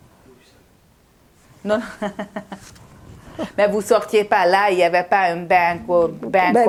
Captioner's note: laughing